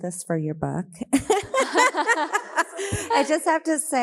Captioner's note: all laughing